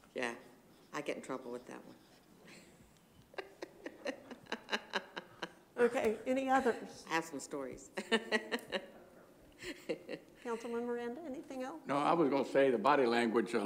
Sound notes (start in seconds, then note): 3.2 laughter; 7.9 laughter